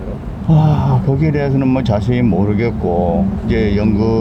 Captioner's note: sighs